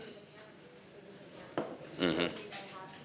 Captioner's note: speaking faintly